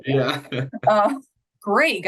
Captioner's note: chuckles